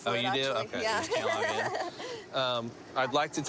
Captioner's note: nervous laughter